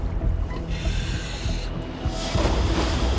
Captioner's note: inhales